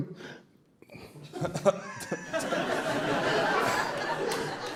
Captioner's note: audience Laughter